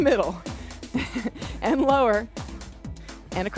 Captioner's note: laughs